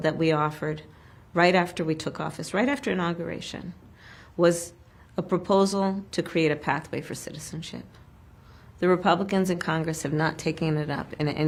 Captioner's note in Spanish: habla enen inglés